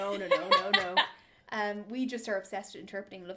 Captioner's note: laughter